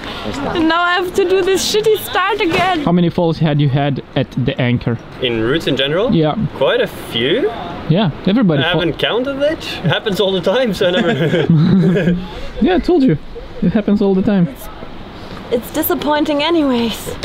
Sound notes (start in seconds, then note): 10.6 laughing